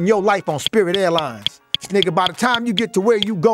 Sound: numbers ticking

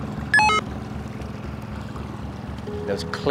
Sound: receiver beeping

